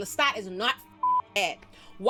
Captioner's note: beep